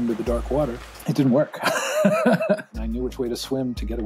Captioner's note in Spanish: risas